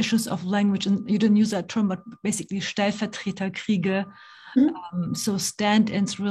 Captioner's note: speaking german